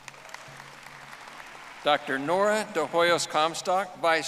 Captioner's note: audience applauding